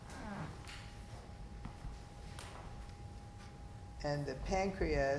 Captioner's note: floor squeaking